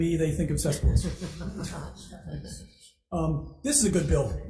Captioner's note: group laughing